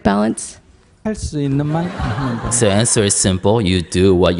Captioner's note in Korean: 청중 웃음